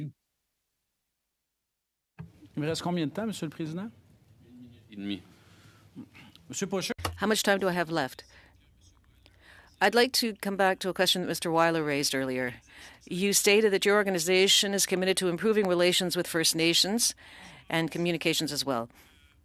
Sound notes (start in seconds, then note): 6.8 speaking French